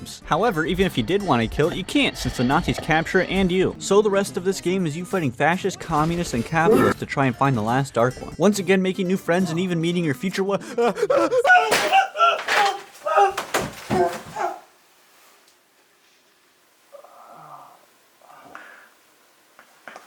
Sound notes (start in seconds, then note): 11.0 screaming and panicking; 16.9 groaning